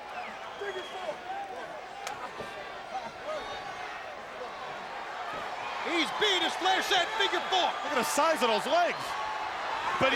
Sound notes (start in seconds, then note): 1.1 crowd clamoring; 1.1 wrestlers faintly speaking